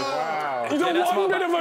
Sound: groaning

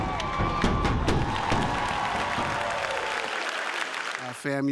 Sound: drum beating; applause

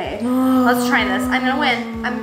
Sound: sighing

